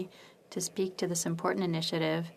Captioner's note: speaking French